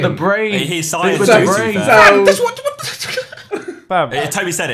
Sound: laughing

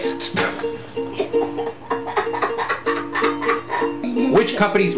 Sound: child laughing

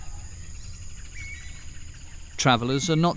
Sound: birds chirping

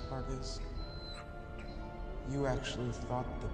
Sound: whimpers

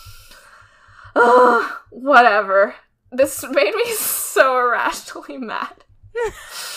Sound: laughing; laughs

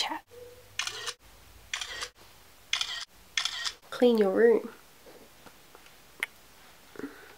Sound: camera snapping

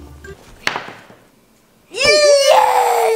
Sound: thud

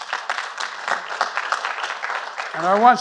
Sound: applause

